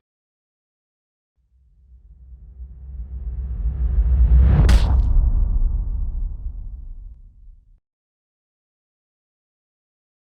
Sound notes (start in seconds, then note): 1.7 tense music; 4.7 fist thuds